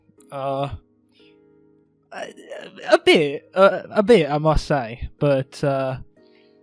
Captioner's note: stutters